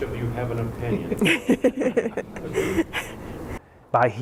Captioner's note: laughter